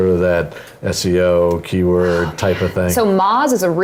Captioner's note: whispers